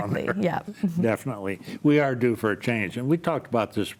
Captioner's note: chuckles